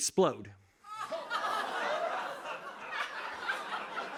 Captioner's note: laughter